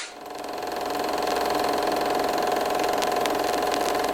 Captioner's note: film reel clicking; clacks